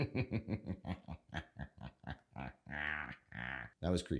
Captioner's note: maniacal laugh